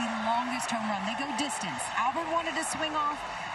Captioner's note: cheering